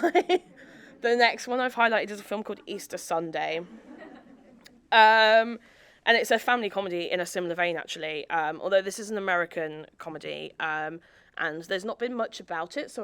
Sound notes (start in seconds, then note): 0.0 audience laughing; 0.0 laughs; 3.7 audience laughing